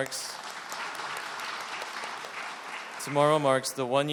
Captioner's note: applause